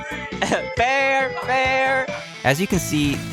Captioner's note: laughs